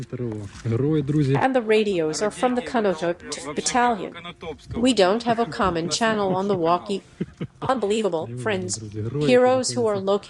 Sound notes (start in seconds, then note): 6.6 on the walkie